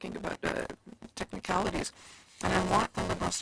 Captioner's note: speaking in French